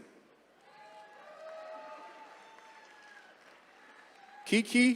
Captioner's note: attendees cheering